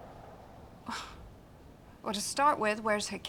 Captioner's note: Lisa sighs